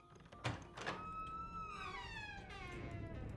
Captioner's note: deep rumbling noise